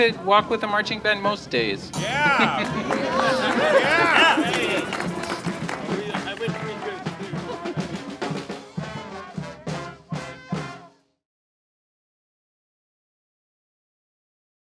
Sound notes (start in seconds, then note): 1.9 laughs; 4.5 applause; 7.4 delighted laugh